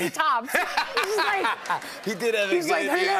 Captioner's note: laughter